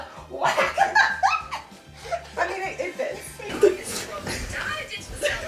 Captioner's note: laughs histerically